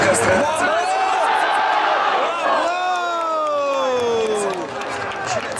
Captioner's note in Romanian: Aplauze